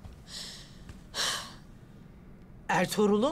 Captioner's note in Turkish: Nefes sesi